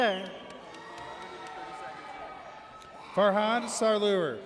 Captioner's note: audience cheers